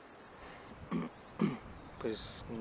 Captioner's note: clears throat